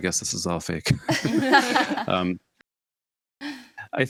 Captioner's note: and hosts laugh